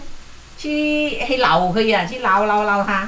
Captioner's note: Cantonese